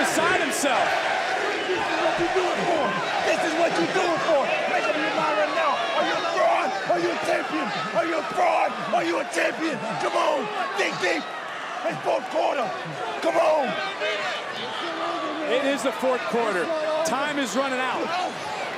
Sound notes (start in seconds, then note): 1.8 applause